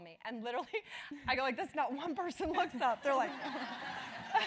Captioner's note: laugh